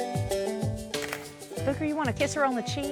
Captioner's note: camera clicking; camera clicks